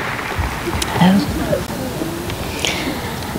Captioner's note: applause